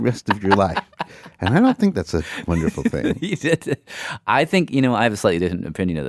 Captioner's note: laughs